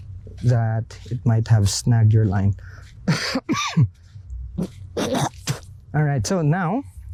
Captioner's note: cough